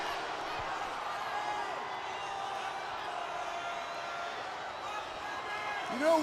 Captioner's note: crowd cheering